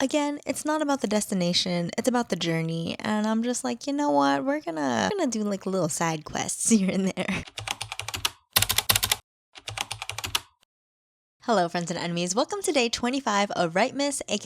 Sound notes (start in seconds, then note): 7.4 typing